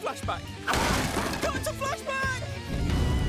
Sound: crashing

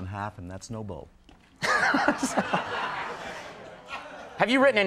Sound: Conan and crowd laughs

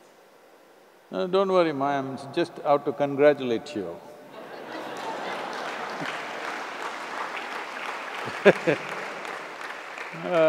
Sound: laughter/Applause; laughs

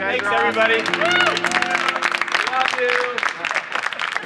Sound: applause

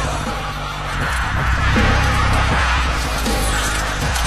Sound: masterbuilders yelling

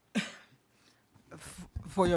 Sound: coughs

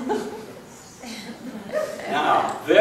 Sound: laughing

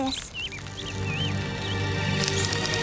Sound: clicking

